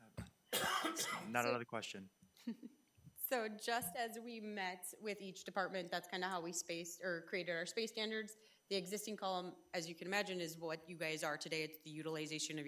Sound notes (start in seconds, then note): 0.4 trustee coughing